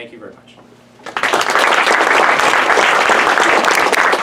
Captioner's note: applause